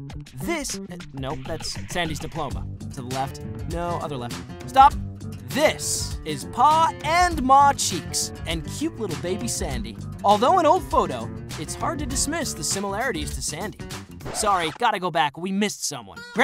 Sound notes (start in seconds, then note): none